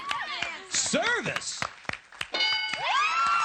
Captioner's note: ding